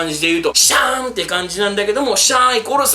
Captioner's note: Scratch